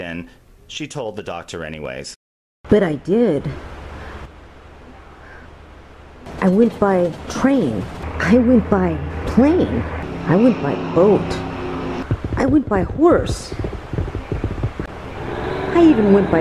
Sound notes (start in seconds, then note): 9.0 track clacking